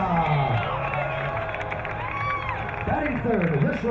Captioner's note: crowd cheering